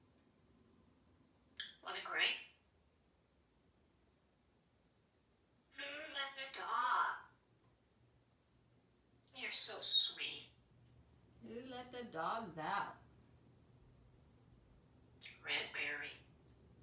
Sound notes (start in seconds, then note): none